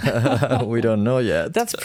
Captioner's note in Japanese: 笑い